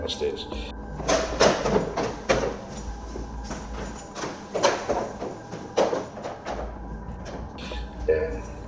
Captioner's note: footsteps